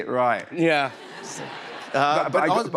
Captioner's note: laughter